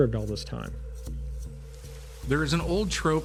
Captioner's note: falling water and birds